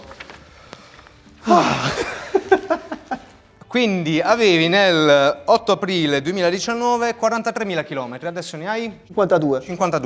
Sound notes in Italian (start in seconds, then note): 1.4 sospiro di sollievo